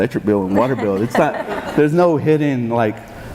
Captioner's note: laughing